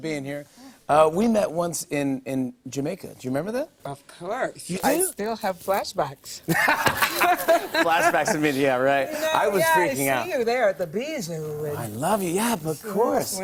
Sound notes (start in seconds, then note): 6.4 laughter